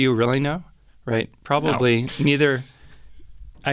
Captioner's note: laughing